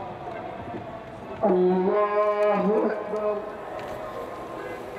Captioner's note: prayers